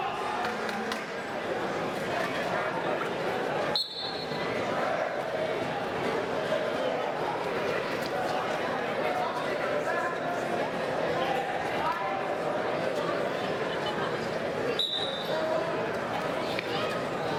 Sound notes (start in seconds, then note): 3.7 referee's whistle